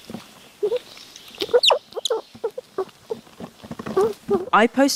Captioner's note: squirrel squeaking